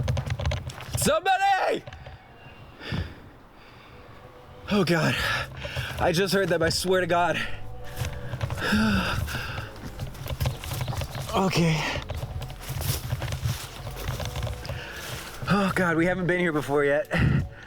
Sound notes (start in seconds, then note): 11.2 sighs